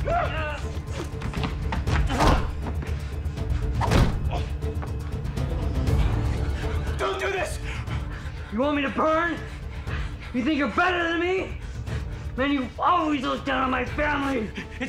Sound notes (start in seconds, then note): 0.0 Larry grunting; 0.0 body banging; 0.2 suspenseful music; 3.8 body thuds